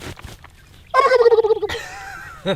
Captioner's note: gobbles; laughs